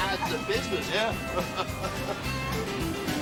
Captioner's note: Riéndose